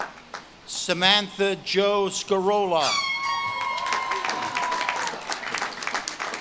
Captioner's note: audience claps and cheers